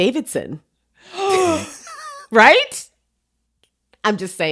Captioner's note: gasps